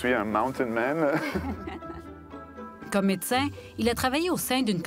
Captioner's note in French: petits rires